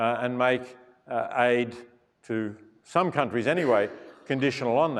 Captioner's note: cough